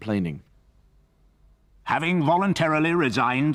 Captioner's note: voiceover